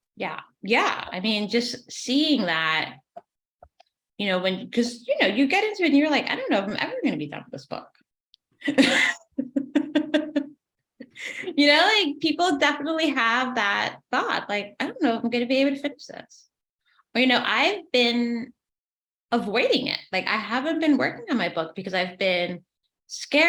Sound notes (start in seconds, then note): 8.6 laughs